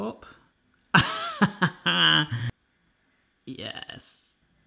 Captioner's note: laughs